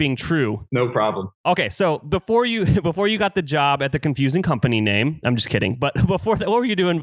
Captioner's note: laughs